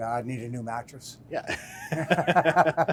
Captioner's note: laugh